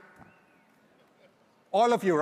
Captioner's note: audience member whistles